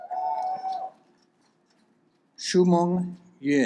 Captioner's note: audience applauds